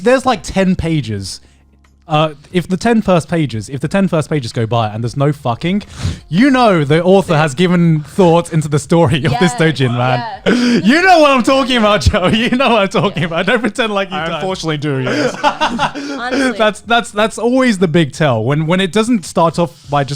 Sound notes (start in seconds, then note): 16.2 laughing